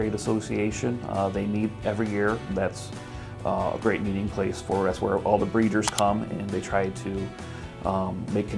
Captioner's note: mouse click